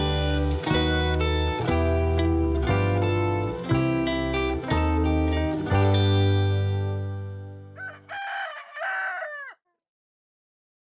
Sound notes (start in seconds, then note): 7.7 rooster crowing